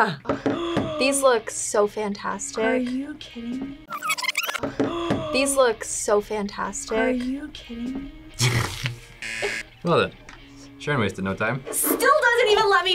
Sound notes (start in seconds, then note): 0.3 gasps; 9.2 buzzer